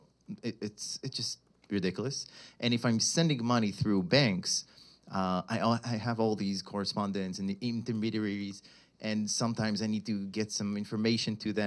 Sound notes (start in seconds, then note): none